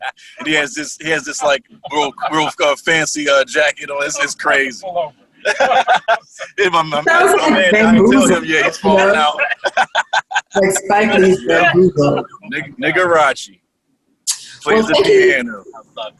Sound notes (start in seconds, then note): 12.0 laughter